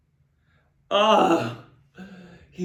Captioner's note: grunts